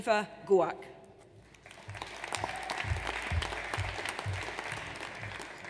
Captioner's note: audience applauds